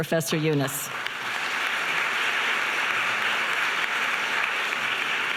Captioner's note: audience applauding